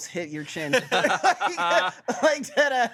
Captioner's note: everyone laughs